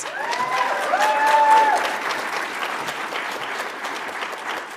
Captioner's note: audience applauds